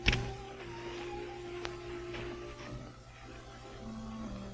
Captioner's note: footsteps thudding